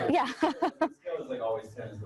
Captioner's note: chuckles